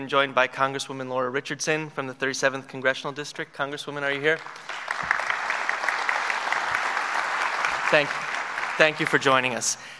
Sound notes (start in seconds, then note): 7.9 applause